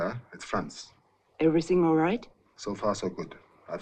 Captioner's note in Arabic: none